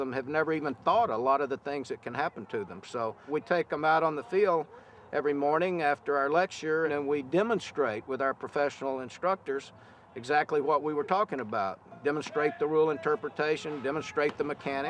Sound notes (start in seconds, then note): none